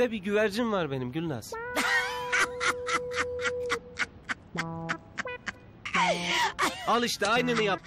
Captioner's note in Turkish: Kahkaha sesi